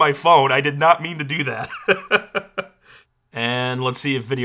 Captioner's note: laughs